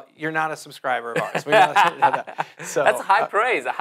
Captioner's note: laughs